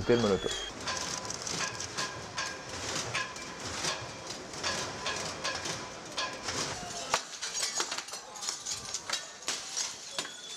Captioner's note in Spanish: golpes,gritos,cristales rotos